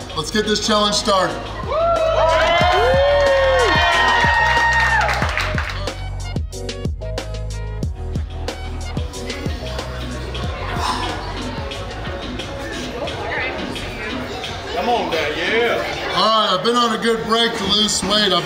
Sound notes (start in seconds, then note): 1.4 patrons cheering; 4.9 patrons clapping; 6.4 upbeat music; 10.8 exhales heavily